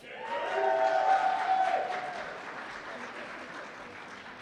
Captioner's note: cheers and applause